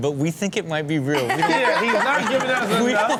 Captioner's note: Chanel laughs